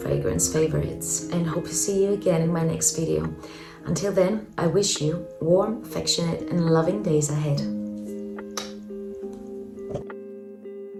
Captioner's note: kiss